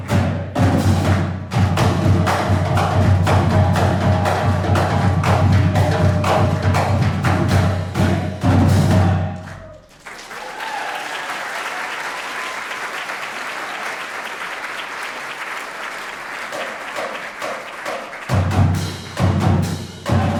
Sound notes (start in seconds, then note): 10.3 applause; 16.4 steady drumming